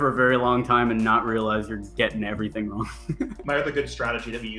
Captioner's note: laughs